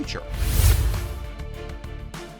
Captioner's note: resolute music continues; screen whooshes